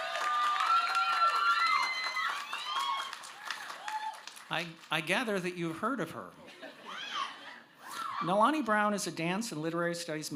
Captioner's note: cheers